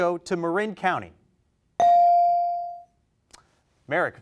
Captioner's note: bell rings